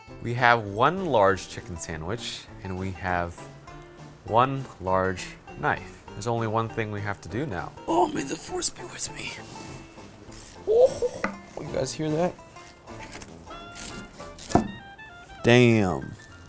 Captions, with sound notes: We have one large chicken sandwich and we have one large knife. There's only one thing we have to do now. Oh, may the force be with me? (slicing sound) You guys hear that. Damn.